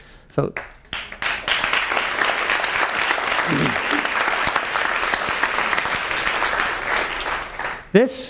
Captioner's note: applause